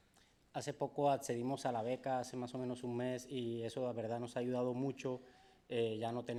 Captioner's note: speaking in foreign language